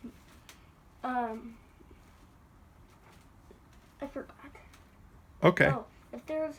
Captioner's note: long pause